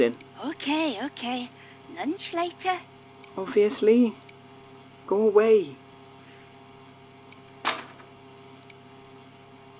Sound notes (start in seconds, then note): 7.6 bethan shuts the door